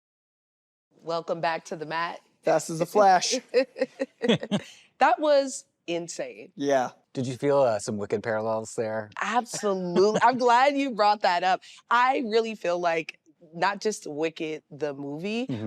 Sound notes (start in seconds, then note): 3.7 laughing